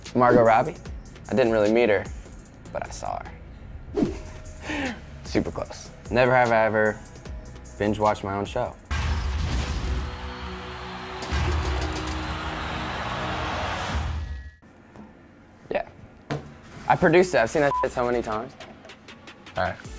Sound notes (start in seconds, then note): 3.9 whoosh; 9.8 cheering; 17.7 beep